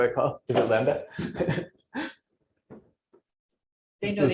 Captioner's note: laughs